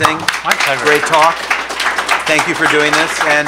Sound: people clapping

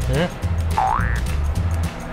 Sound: confused

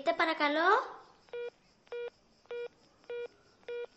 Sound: hungup tone

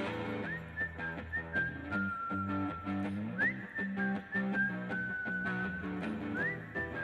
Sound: whistling tune

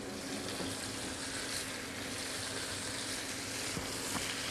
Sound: sizzling

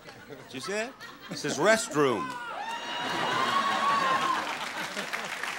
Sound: audience laughing

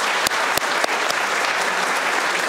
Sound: applause

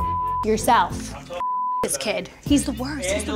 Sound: computer bleeps

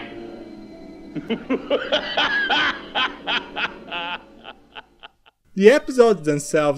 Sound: evil laughter

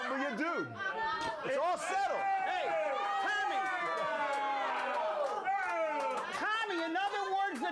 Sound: audience cheering

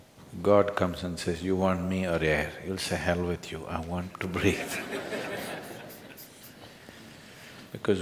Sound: laughter

